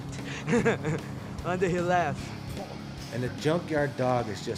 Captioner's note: laughs